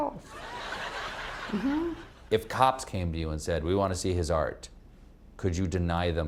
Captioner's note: laughter